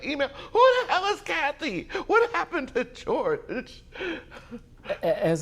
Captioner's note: cries